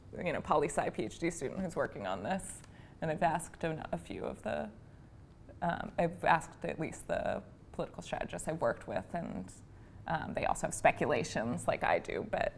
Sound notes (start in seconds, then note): none